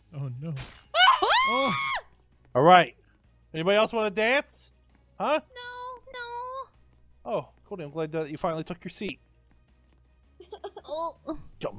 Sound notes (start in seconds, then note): 0.9 Goldy screams; 0.9 slashing